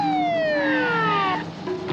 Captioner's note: tires screech